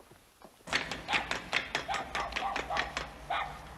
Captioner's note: dog barking